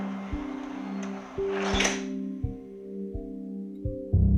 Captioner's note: door clangs shut